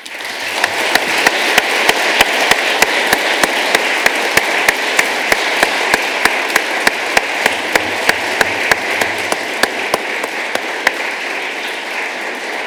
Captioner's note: applause